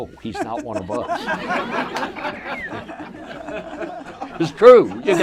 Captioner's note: audience laughter